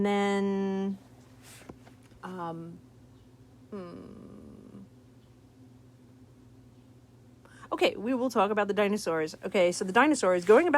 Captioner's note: pause